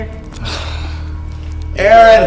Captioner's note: sighs